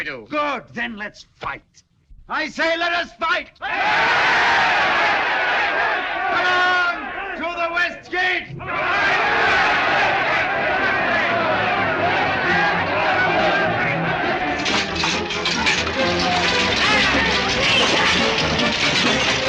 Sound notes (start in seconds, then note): 3.6 جمهور يهتف; 8.6 صراخ الناس; 8.8 موسيقى درامية